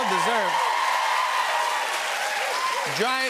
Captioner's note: cheers and applause